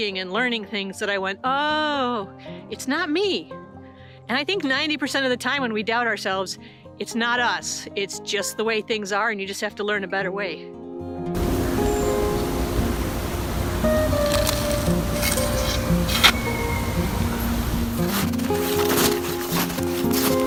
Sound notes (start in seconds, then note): 12.2 river rushing; 15.1 snow crushes